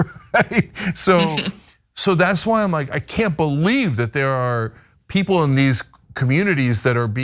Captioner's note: laugh